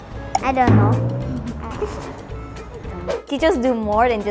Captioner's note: giggles